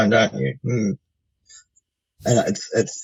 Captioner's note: sounds agreement